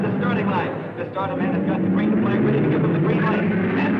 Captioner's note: cars thrumming